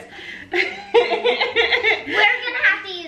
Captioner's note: everyone laughs